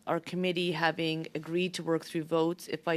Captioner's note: speaking French